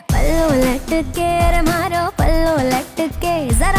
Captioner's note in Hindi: none